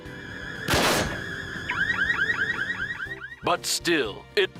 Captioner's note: alarm beeps